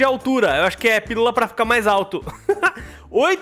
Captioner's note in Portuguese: risos